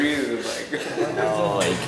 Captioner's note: laughs